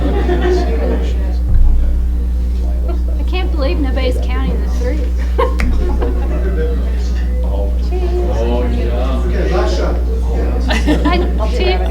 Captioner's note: crowd chatter